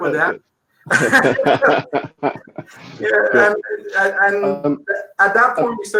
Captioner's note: laughing